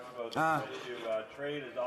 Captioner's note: speaking in French